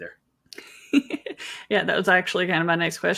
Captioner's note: laughs